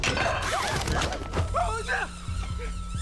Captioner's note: screams